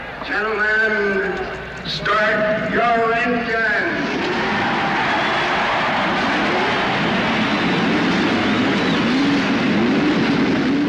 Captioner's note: applause